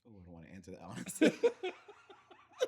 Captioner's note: laughing